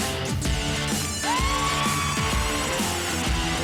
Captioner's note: cheering and clapping